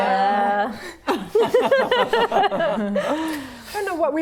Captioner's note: laughing